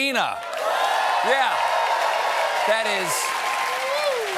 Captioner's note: cheers and applause